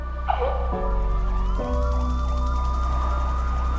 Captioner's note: sirens wailing